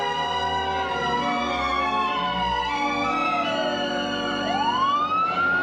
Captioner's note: siren